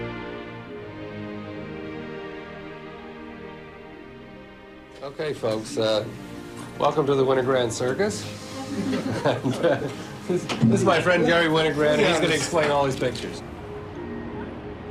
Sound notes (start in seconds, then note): 8.4 laughs